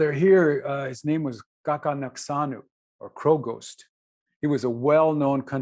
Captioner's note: non-english